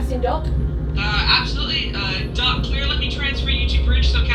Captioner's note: woman On Radio